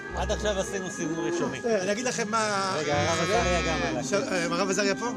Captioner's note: speaking in Hebrew